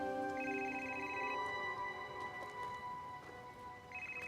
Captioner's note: gentle music continues; phone ringing